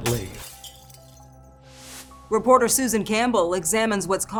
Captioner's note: glass shatters; soft tense music